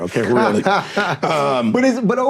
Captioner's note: laughing